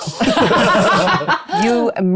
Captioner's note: cast laughs